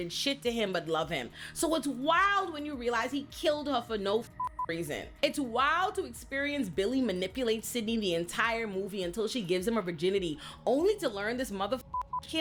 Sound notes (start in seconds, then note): 4.4 beep; 11.8 beep